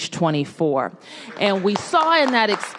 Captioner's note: applause